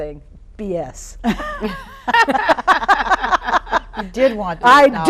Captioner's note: laughing